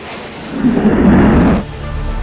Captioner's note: rocket launch